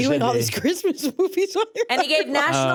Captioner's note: laughs